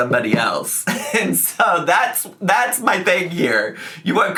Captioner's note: laughs